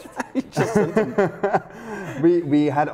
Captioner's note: both laugh